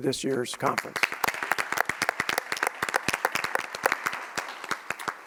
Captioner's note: audience applauds